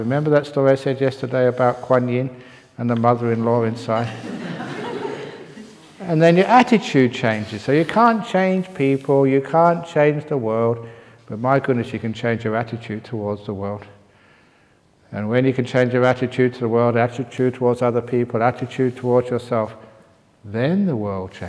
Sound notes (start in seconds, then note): 4.0 laughter